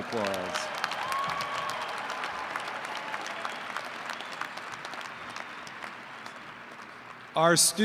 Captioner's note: applause & cheering